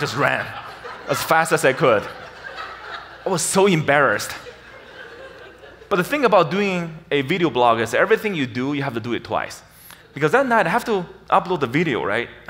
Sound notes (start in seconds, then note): 2.1 audience laughs